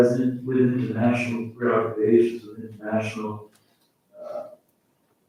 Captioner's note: faintly speaking